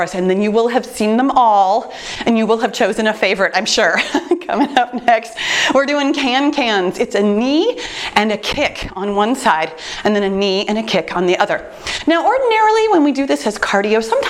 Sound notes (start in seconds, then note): 3.8 laughs